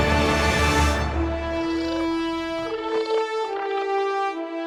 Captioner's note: chittering